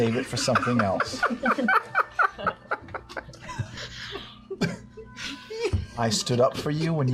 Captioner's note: laughter